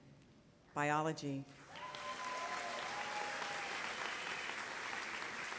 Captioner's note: applause